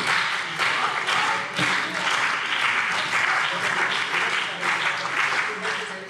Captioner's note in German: Beifall CDU und BÜNDNIS 90/DIE GRÜNEN